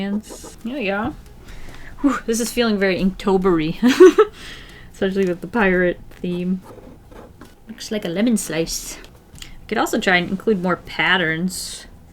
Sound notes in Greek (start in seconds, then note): 3.8 Γέλια